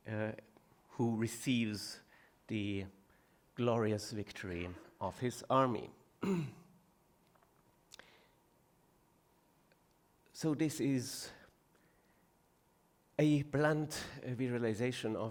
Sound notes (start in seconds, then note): 6.2 clearing throat